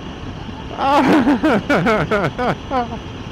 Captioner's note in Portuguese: risada